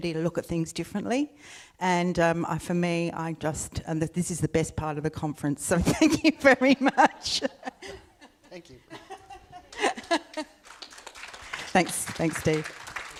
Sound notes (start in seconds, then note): 6.4 laughs; 9.7 audience applauds